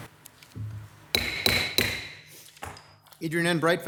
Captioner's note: gavel slumming